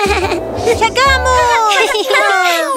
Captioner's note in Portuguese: Risos